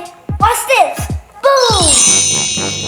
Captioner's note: dramatic instrumental music; magical tinging